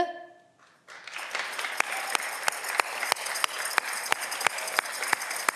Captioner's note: audience cheering